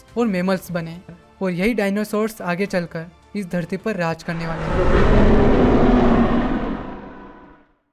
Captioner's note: dinosaur roar